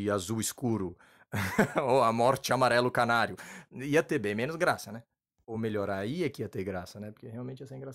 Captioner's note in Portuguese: risos